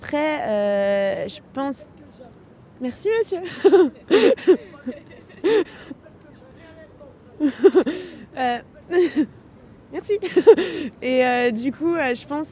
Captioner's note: laughs